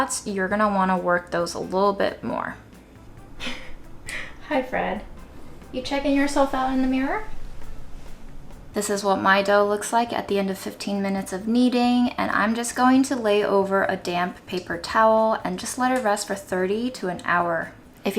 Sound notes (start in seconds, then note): 3.4 laughs